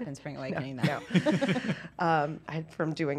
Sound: laughter

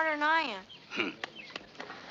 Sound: chuckles

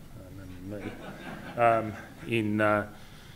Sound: laughter

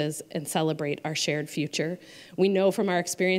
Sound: none

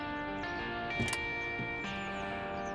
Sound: car door opens

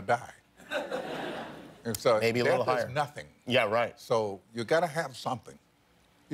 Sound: laughter

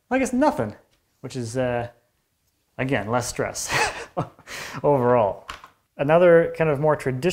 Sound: chuckles

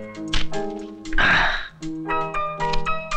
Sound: sighs

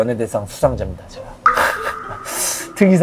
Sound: shy laughter

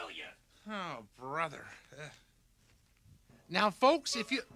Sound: sighs

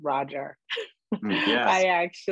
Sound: chuckles

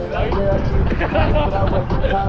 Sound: laughs

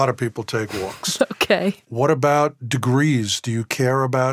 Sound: laughs

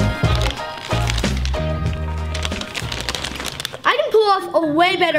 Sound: bag crackling

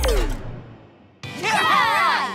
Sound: cheering

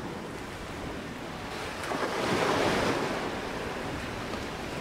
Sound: waves crashing

